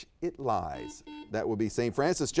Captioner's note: buzzer beeps